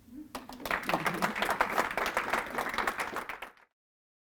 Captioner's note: class audience applauds